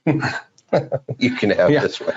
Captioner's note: laughing